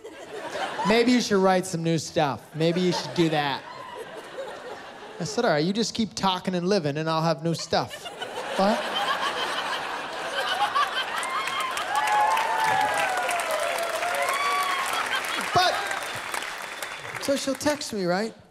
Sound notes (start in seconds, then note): 7.5 laughter; 11.6 laughter, cheering, applause